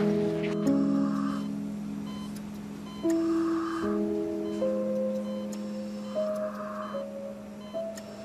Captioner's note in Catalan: pip-pip-pip-pip; respiracions fortes